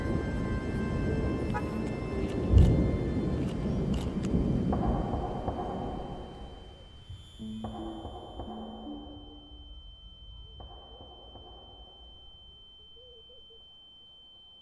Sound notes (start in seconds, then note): 5.3 car horns honking; 6.0 Justin ear whistling